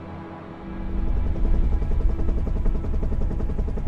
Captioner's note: helicopter blades whirring